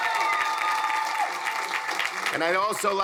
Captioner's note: crowd applauding; crowd cheering